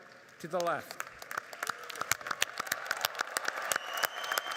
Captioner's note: audience applauding